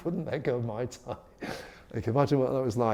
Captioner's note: laughs